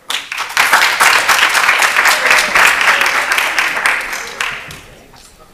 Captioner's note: applause